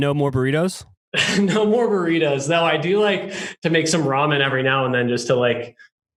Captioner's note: laughs